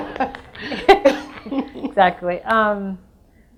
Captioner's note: all laugh